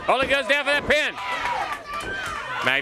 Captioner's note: crowd cheering